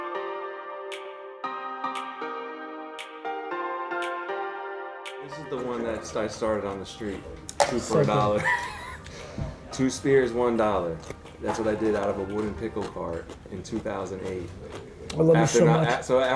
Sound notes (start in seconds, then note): 0.0 upbeat piano music; 7.8 laughing